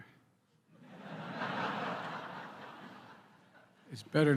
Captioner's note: laughter